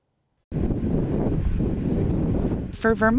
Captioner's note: wind blows